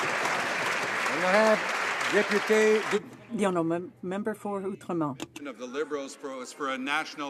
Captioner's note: some Applause